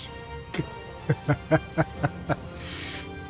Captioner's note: laughs